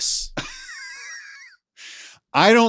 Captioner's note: laughs